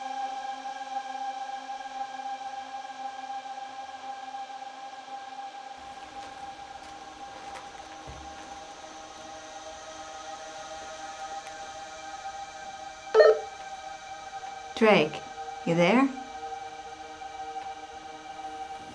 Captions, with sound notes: (haunting music continues) (walkie-talkie dings) - Drake, you there? (eerie music)